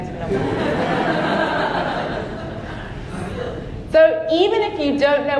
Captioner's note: audience laughing